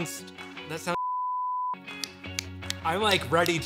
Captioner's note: fingers snapping